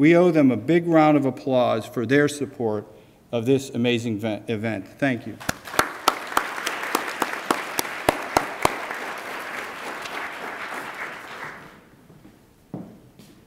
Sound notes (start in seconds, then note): 5.4 attendees applaud